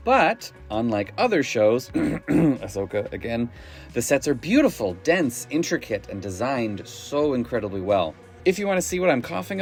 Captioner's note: cough, Ahsoka